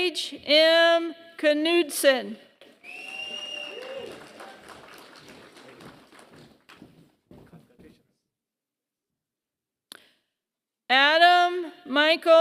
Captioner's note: applause